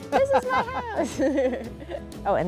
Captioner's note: laughs